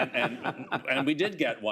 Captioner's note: laughs